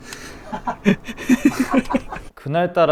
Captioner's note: laughs